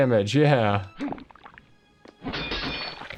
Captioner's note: water splashing